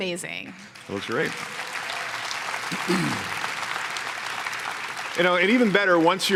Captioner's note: applause